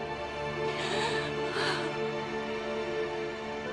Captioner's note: Jordan sobs